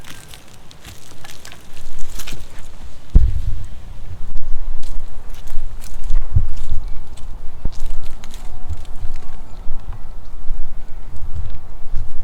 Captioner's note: walking sounds